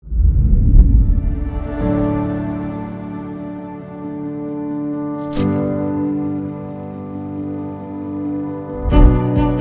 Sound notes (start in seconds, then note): 0.1 graphic whooshing; 1.4 uplifting music; 5.2 film reel clicking